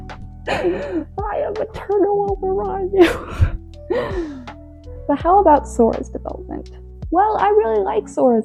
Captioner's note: laughs